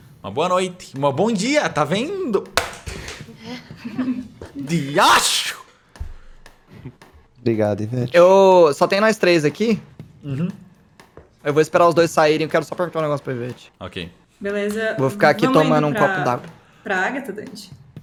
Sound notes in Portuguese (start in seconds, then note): 3.4 Risos